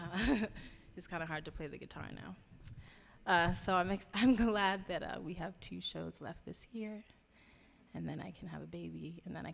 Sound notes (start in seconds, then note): 0.6 laughing